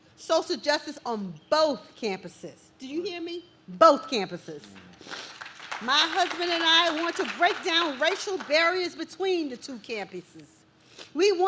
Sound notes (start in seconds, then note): 4.7 audience claps